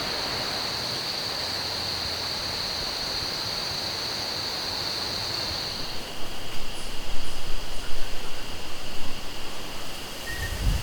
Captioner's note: insects